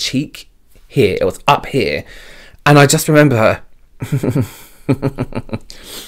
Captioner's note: giggles